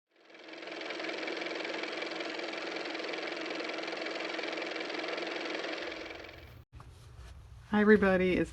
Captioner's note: car motor